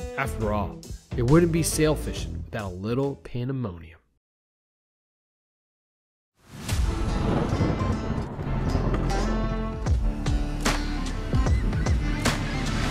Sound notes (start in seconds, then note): 7.2 upbeat guitar music playing; 8.6 motor revving